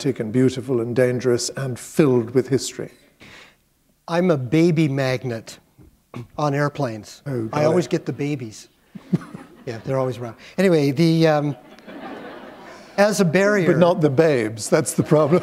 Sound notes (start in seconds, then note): 12.6 chuckle